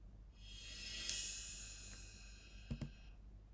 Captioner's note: reverse cymbal sound